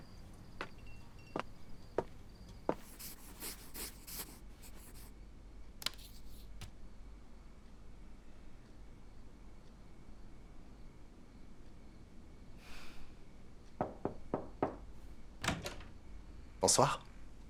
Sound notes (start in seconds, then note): 13.8 knock! Knock! Knock!